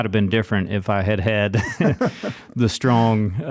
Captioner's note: laughs